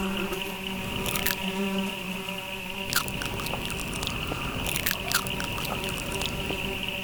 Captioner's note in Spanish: crujido por masticar